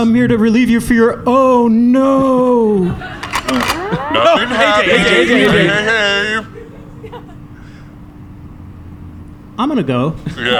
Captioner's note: racks his gun